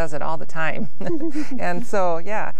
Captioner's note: laughs